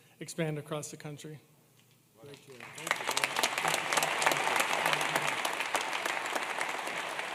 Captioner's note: applause